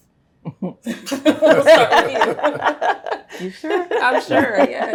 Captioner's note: all laugh